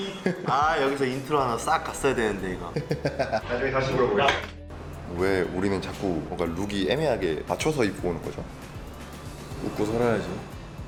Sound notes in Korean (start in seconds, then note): 2.6 웃음소리